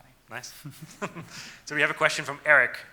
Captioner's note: laughing